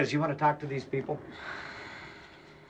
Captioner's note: exhales